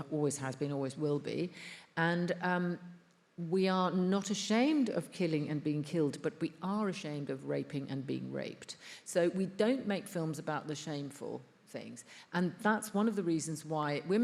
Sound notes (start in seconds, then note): none